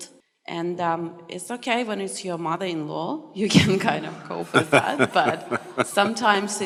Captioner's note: Matthew laughs